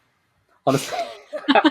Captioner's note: laughing